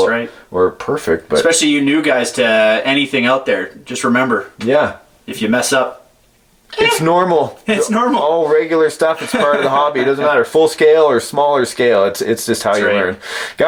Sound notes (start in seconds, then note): 9.1 laughing